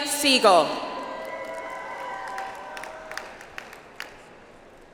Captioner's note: audience applauds